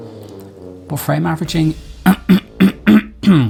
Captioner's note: throat clearing